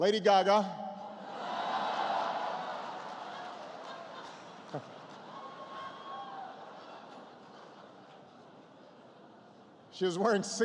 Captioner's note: laughter